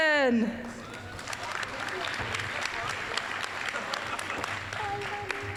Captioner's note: applause